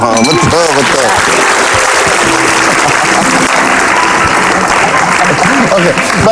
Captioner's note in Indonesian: tepuk tangan